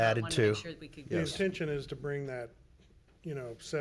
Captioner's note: speaking faintly